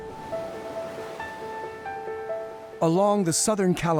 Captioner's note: pensive piano music; waves crashing